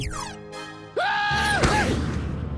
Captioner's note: yells